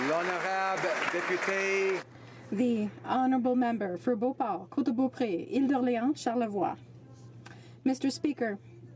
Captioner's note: applause